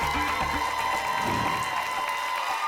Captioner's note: whoosh; applause and cheering cont